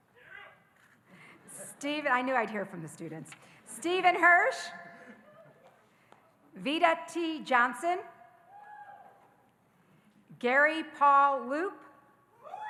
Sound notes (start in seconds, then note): 0.8 audience laughing; 8.6 audience cheering